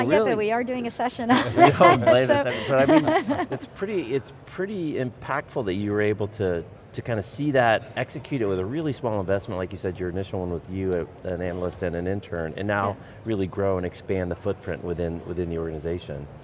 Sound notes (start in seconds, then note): 1.2 laughs